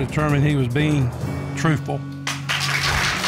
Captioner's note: audience applauds